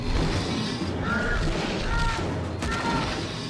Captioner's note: sphinx growling; Ryder whimpering